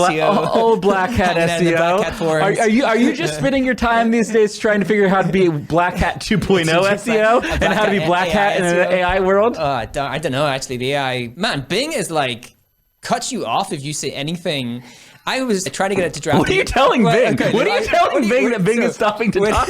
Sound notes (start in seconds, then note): 16.3 laughs